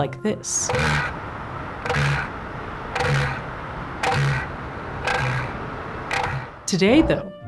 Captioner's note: rhythmic elephant seal call